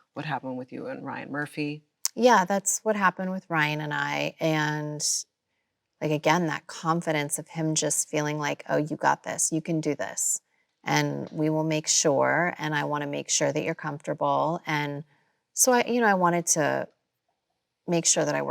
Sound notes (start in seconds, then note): none